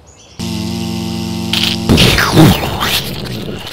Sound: buzz; explosion; crunch

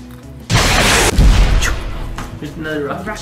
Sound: rocket explodes

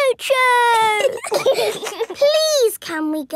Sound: giggling

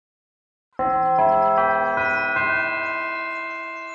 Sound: bell chimes

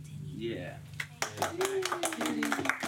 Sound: cheers and applause

